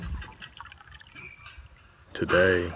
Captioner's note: windmill creaking